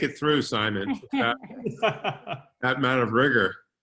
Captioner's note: laughing